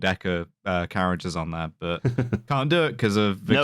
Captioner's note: chuckles